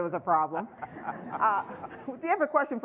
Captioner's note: laughter